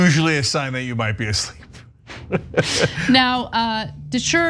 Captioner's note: laugh